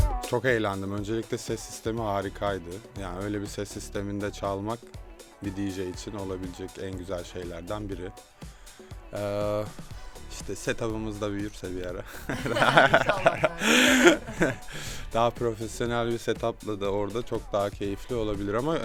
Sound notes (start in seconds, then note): 12.0 they are laughing